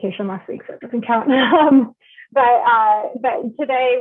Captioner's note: laughs